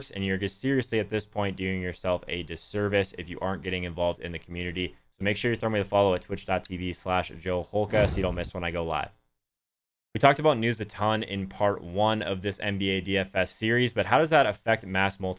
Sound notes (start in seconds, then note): 7.8 whooshing sound